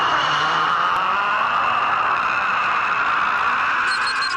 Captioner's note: yelling